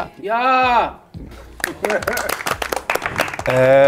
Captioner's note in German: Applaus